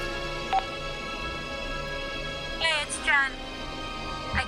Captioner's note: teléfono suena